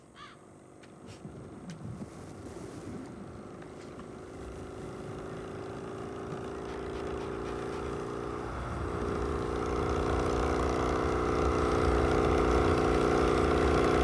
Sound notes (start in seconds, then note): 3.3 motor